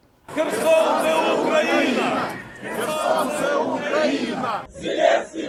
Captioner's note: crowd shouting